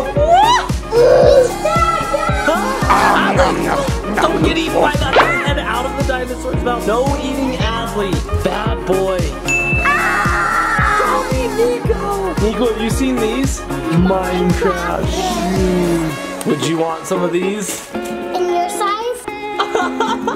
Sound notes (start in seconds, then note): 0.1 mom gasps; 9.4 bell dings; 19.6 laughing